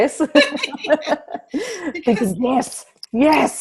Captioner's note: laughs